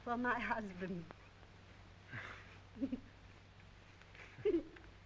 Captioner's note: giggling